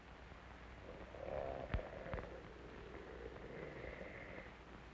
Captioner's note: wolfman growling